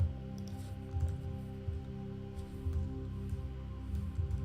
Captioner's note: keyboard faintly clacking; gentle calming music continues